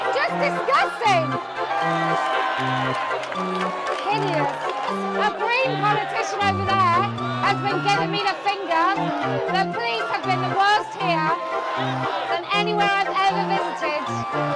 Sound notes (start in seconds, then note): 0.0 crowd cheers; 2.9 crowd cheers